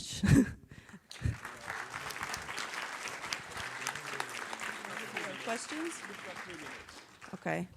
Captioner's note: applause